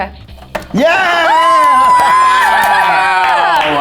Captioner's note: all cheering